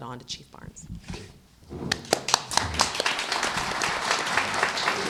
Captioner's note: applause